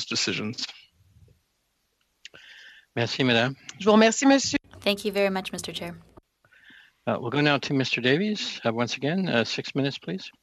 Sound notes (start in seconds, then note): 5.7 speaking French